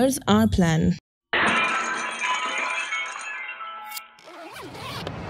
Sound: breaking piggy bank

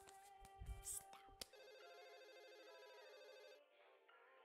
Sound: phone ringing

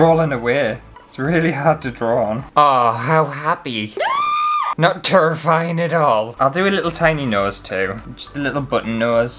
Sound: scream!!

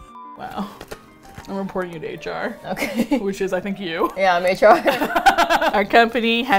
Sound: laughs; both laugh; singsong

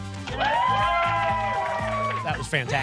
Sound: applause and cheering

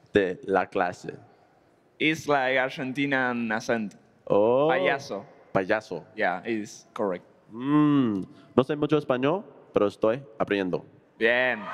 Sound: speaking Spanish

